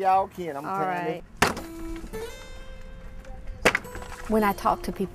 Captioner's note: knock... knock